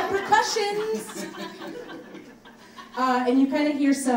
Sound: audience laughs

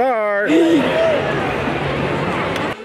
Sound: assistant giggles; dramatic music

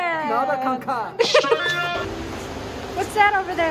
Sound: laughing

